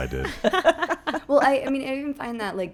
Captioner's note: laughing